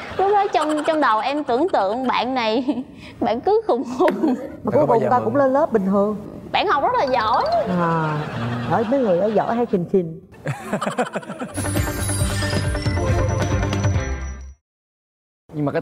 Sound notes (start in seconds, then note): 10.4 laugh